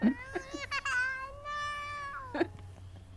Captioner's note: laughing; baby crying